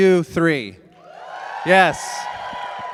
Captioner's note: audience cheers